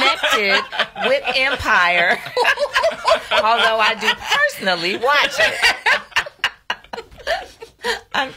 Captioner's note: laughs